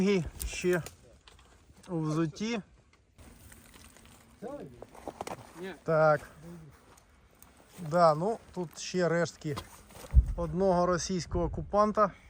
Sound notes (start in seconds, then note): none